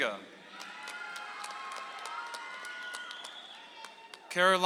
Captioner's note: audience applauds